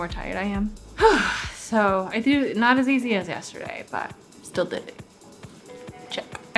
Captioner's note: breathes